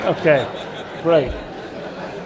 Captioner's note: laughter